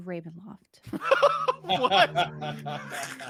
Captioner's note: laugh